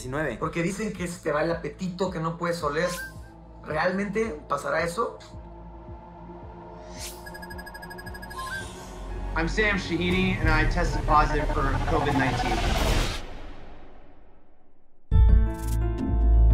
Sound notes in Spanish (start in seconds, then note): 7.1 tono de llamada; 9.1 hablando en inglés